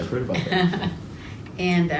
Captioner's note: laughs